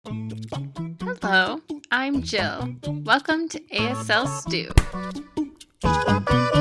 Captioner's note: hand slap